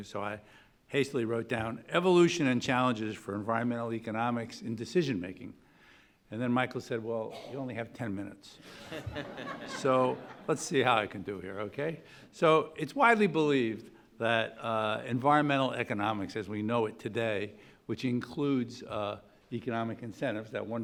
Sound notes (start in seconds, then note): 8.7 audience laughing